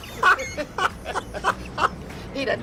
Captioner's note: laughs